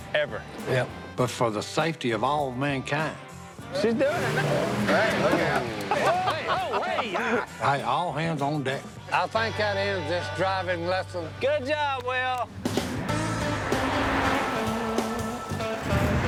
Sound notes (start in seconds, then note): 3.2 engine revs; 5.2 laughter